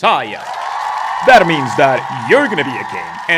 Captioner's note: erupts in applause